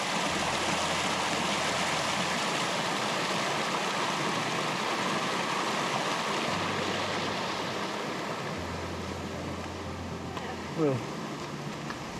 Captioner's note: water rushing